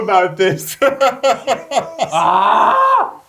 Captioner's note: laughs